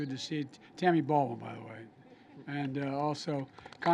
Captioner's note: applause